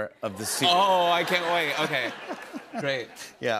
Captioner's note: laughter